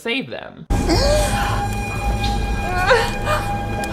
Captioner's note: woman sighs; woman moans